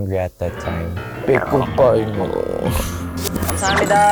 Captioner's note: stomach rumbling